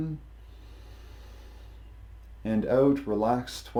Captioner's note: inhales deeply